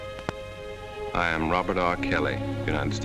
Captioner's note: voiceover